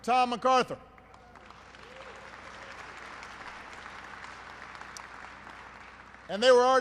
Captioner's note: applause